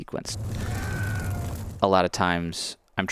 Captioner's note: fire crackling; man screaming